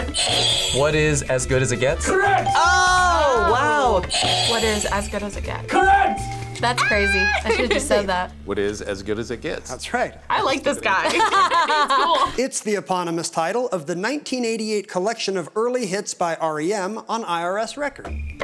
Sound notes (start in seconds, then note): 0.0 buzzer rings; 4.0 buzzer rings; 10.9 both laugh